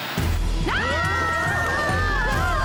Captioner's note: screaming